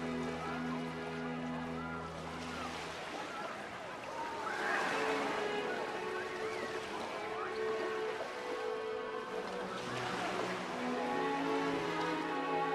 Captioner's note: water lapping